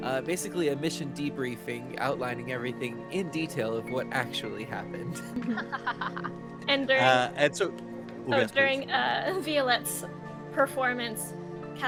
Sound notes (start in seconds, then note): 4.9 Cornette laughs; 5.1 Violette laughs